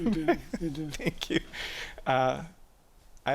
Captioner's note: laughs